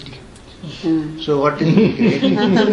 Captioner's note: laughs